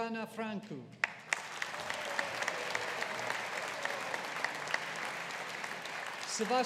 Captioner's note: audience applauding